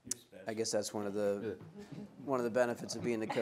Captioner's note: murmuring